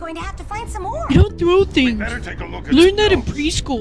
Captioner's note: silly voice